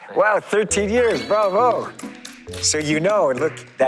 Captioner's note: bravo, applause